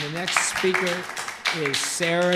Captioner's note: applause